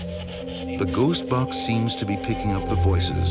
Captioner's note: voiceover